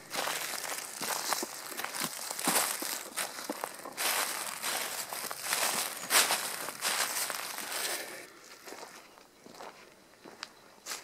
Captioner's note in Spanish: Pisadas sobre la hojarasca